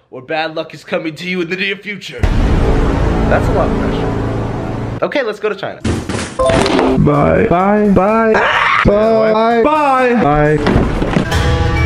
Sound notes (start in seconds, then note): 2.2 dramatic music; 8.4 screams; 11.2 calm music